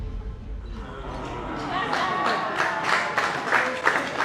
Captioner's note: patrons murmur; applause